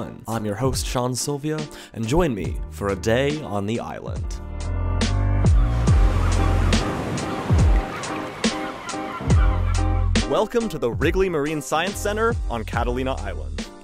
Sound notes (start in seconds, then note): 5.5 waves crashing; 8.9 birds chirping